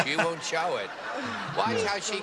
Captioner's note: laughter